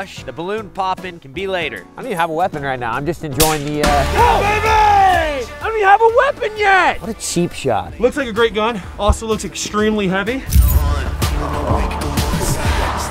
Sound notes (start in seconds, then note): 3.4 gunfire; 3.9 yelling